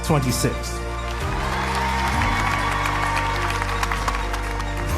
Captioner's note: cheering